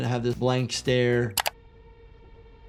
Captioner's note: mouse clicks; somber tense music